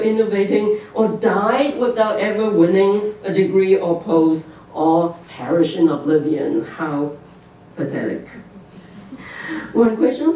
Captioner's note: laughter